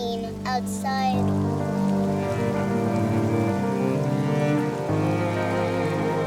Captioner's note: gentle music; rain pattering